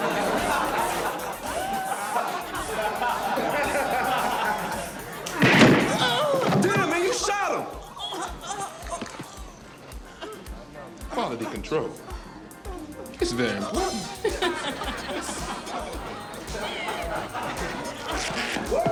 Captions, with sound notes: (people laughing) (gunshot ringing) (man groaning) - Damn, man. You shot him. - Quality control. It's very important.